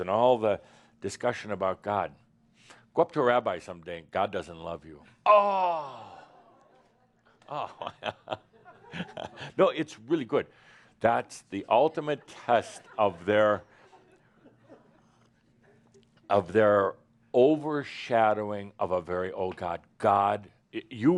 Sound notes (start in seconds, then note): 5.9 chuckling